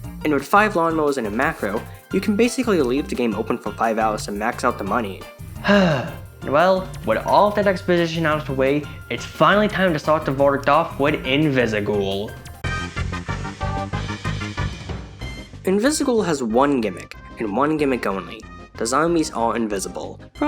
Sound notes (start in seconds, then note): 5.6 sighs